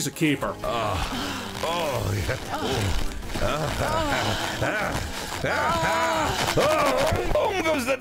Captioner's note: both moaning VERY loudly